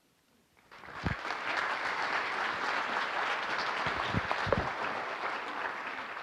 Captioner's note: applause